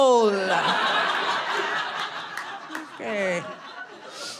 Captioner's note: audience laughing